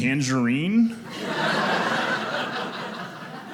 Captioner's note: audience laughing